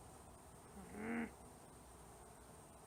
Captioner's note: frustrated growl